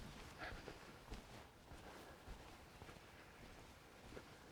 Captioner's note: muffled breathing